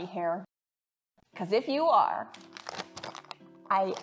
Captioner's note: package rustling